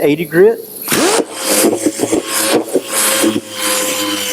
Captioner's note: machine buzzing